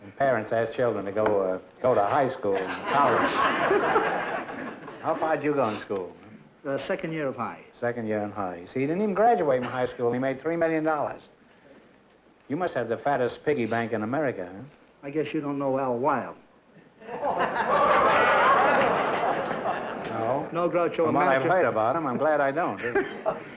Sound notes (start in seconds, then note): 17.0 laughter